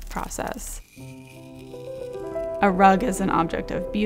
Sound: metal against sand

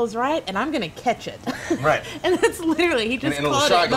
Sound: laughs

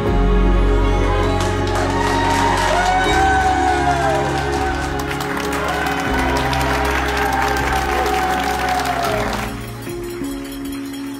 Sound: hospital employees cheering

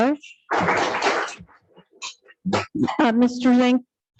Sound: audience clapping

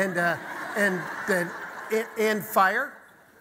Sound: audience laughter

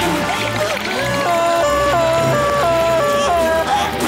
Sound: siren blaring

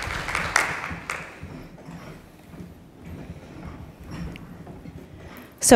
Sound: light footfall on stage

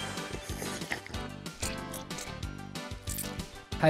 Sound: slurping; energetic music

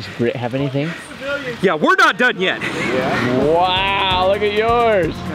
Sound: man shouts in background

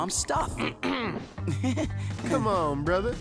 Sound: clearing throat

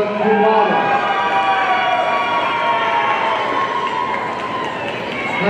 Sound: audience cheering

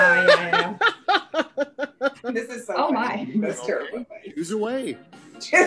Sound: laughs

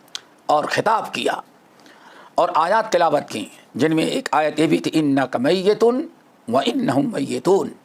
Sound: in Arabic

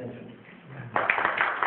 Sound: clapping

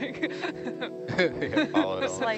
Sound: group chuckles

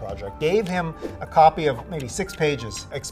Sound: air whooshing

